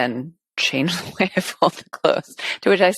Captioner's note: laughs